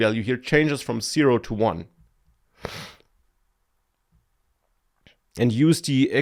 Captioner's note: sniffs